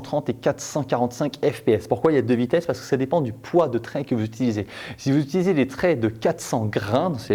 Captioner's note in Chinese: 英语